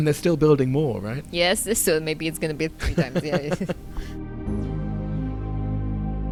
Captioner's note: voiceover